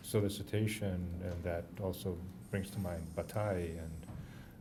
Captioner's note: french